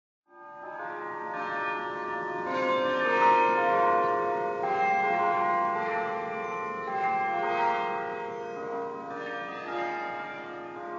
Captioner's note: bells Chiming